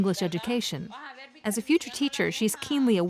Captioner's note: speaking foreign language